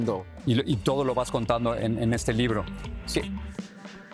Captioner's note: speaks in foreign language